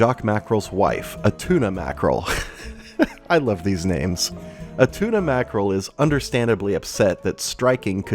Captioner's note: laugh